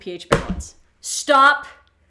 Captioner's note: phone dropping